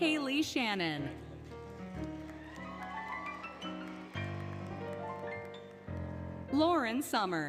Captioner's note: applause, Cheering, Music